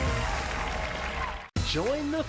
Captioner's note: cheers and applause